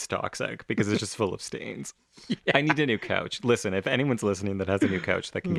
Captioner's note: laugh